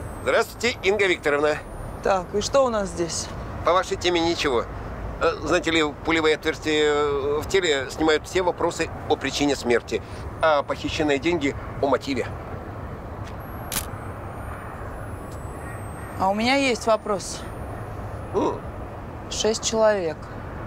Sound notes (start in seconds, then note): 13.6 camera clicking